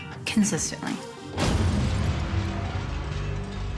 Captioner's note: glass shattering